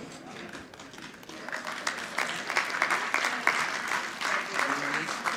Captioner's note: audience clapping